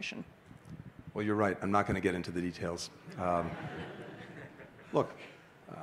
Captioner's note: laughter